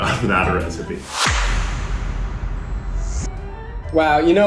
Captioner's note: whoosh